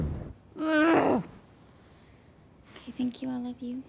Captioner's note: grumbling